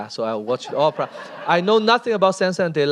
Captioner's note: laughter